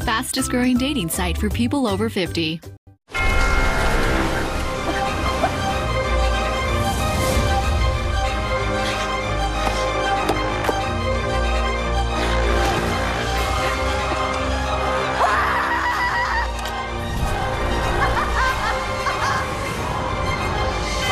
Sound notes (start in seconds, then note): 4.8 coughs; 15.1 screams; 19.3 laughs